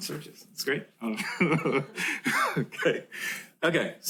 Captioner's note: laughter